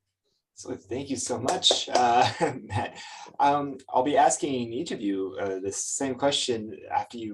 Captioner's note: chuckles